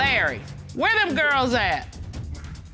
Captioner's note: judge dana reading